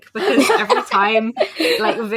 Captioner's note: laugh